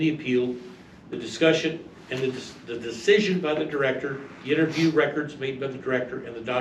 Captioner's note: stammers